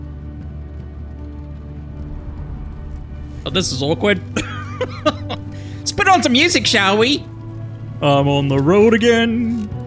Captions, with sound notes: Well, this is awkward. [laughs] Let's put on some music, shall we? I'm on the road again.